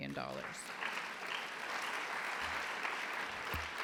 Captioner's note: applause